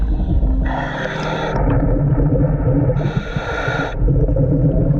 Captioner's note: underwater breathing